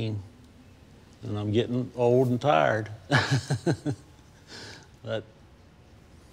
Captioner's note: laughs